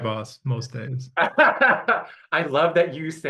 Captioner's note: laughing